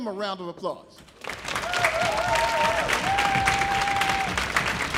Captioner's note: audience applauding